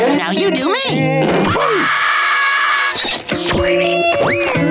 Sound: screaming

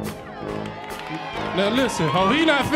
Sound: audience cheering

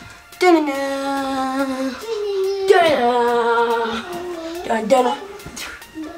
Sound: humming the theme

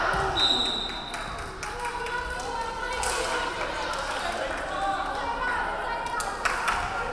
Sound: referee whistling; crowd clapping

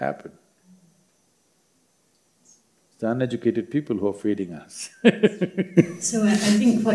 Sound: laughs

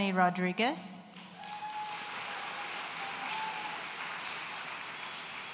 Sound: audience cheering

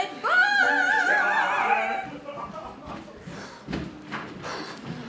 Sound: cries

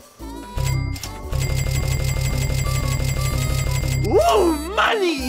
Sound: cha-ching noises

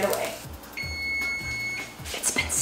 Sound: timer beeping

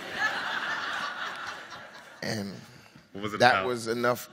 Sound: audience laughs

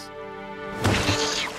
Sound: splash

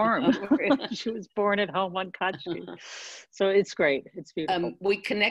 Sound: laughs

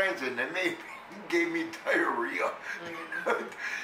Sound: laughs

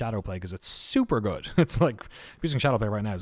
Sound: chuckles

